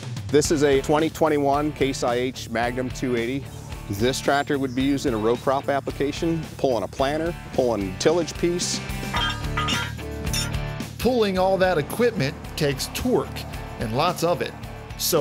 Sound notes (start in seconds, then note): 9.1 metal clanking